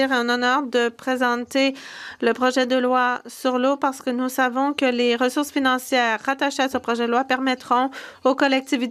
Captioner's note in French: voix de l'interprète